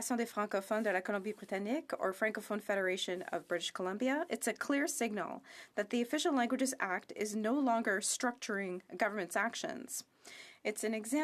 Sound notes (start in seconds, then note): 4.8 speaking French